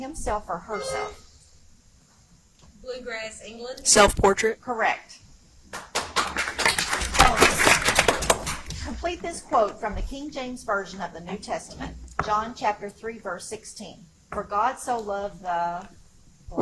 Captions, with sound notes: himself or herself? (buzzer chimes) - Bluegrass, England. - Self portrait. - Correct. (audience applauds) Complete this quote from the King James version of the New Testament. John Chapter Three, Verse 16. "For God so loved the..."